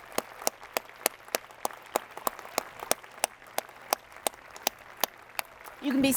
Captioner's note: applause